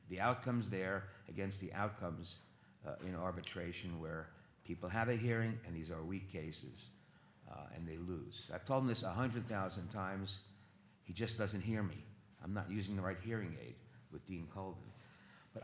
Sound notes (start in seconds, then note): none